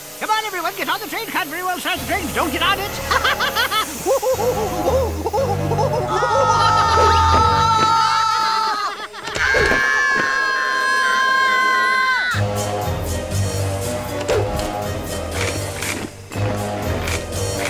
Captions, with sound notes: Come on everyone get on the train. Can't very well start the train if you don't get on it. (laughs maniacally) (screams) (screams) (cabbage leaves snap)